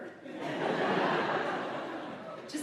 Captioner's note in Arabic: الحشد يضحك